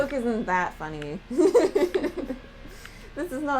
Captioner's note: laughter